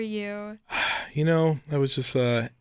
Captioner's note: sighs